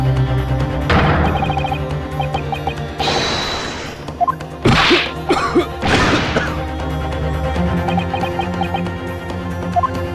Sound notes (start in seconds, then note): 4.6 cough